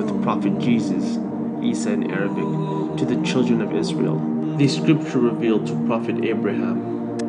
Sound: Isa in Arabic

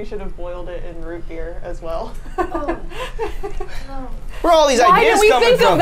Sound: laughs

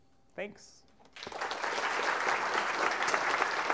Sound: applause

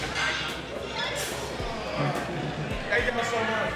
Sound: people chattering

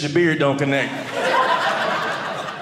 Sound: audience laughing

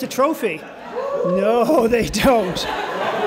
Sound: cheering; laughter

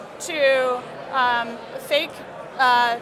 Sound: crowd buzzes with conversation

